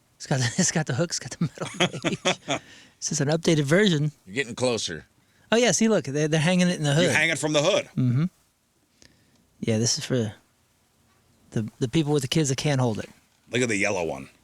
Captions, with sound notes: It's got the hooks, got the metal cage. [LAUGHTER] This is an updated version. You're getting closer. Oh, yes. See, look. They're hanging it in the hood. You're hanging it from the hood. Mm-hmm. Yeah, this is for the people with the kids that can't hold it. Look at the yellow one.